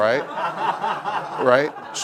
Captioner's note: laugh